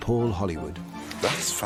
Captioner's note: none